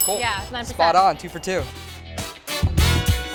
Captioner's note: ding